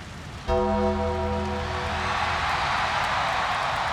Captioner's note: bells chiming